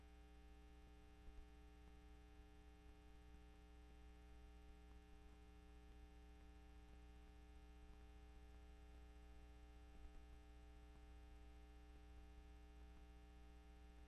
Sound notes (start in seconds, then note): none